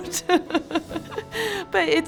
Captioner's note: teacher laughs